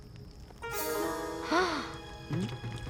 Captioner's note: gasping